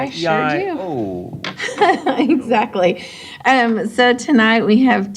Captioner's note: laughing